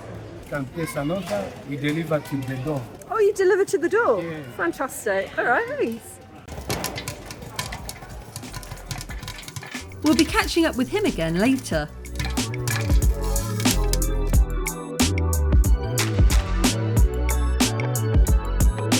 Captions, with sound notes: You can place an order. We deliver to the door. - Oh, you deliver to the door? Fantastic. All right, thanks. [popcorn popping] We'll be catching up with him again later. [lo-fi chill music]